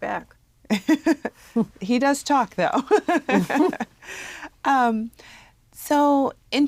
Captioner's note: laugh